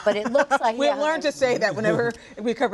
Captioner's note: laughs